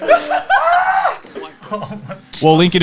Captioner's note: laughs